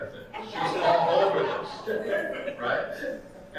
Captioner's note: audience laughing